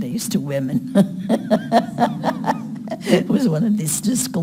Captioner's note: laughing